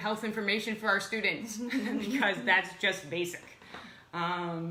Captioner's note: laughs